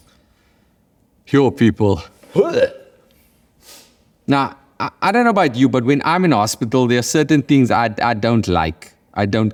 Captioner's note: gags